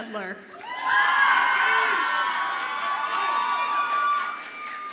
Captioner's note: audience applauds and cheers